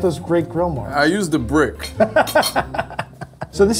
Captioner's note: laughs